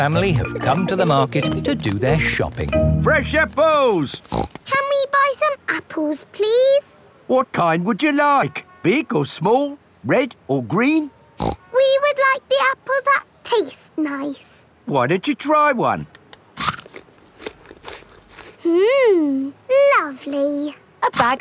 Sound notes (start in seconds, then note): 4.2 snorts; 11.6 snorts; 16.5 crunches